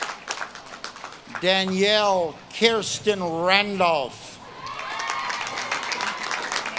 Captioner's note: audience claps and cheers